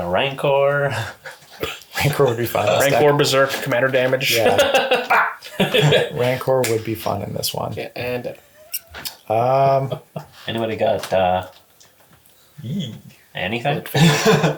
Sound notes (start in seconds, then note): 4.2 laughs